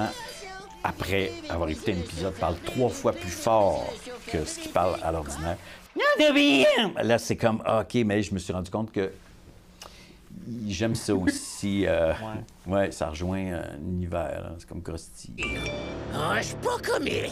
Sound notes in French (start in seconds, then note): 4.7 charabia d'une voix aiguë; 15.4 notification sonore